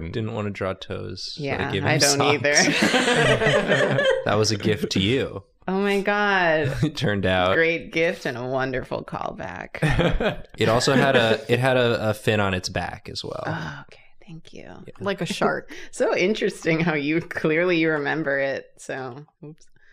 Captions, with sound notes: That's important. Didn't want to draw toes, so I gave him socks. Yes, I don't either. [laughter] That was a gift to you- Oh, my God. -it turned out. Great gift and a wonderful callback. It also had a fin on its back as well. Thank you. Like a shark. So interesting how clearly you remember it.